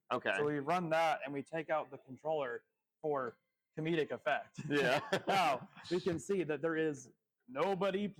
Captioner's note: laughs